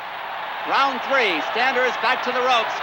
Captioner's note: crowd cheering